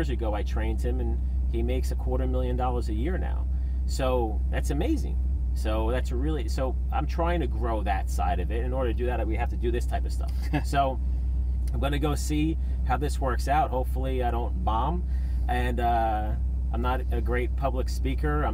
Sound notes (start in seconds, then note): 10.3 laughter